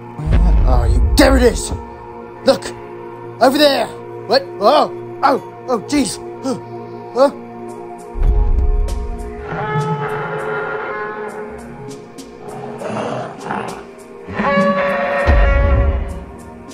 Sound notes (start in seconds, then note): 0.0 stomping sounds; 6.5 moans; 8.2 thuds; 9.4 parasaurolophus shrieking